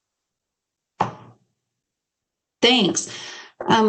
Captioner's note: loud bang